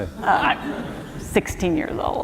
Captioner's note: laughter